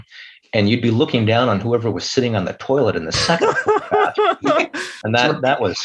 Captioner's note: laughter